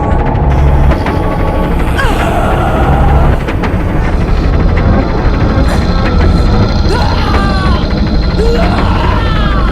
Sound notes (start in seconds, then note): 8.3 Naira screaming